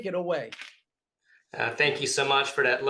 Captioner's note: keyboard clicks